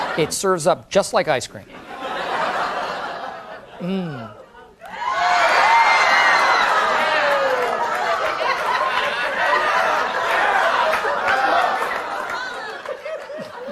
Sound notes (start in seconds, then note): 1.7 audience laughing; 4.8 audience cheering